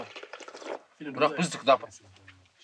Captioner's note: man speaks Mongolian